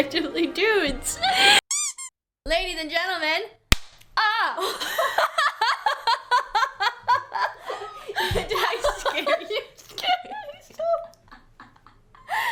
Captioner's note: clap